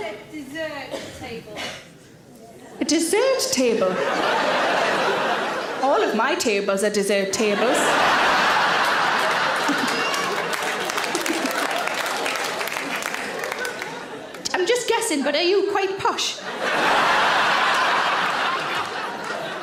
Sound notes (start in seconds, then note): 3.7 audience laughs; 7.6 audience laughs and applauds; 11.0 audience applaud; 11.0 Sarah giggles; 16.4 audience laughs